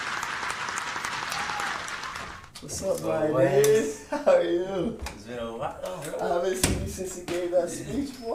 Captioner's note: applause